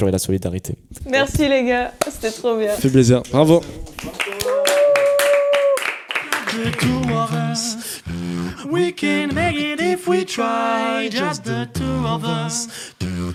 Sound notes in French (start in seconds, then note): 3.9 applaudissements; 6.2 beatbox